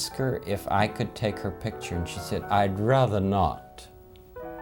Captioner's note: posh accent